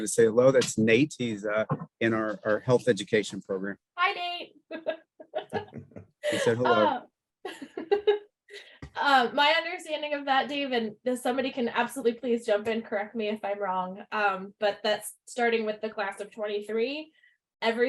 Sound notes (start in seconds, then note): 5.2 laughs; 7.8 laughing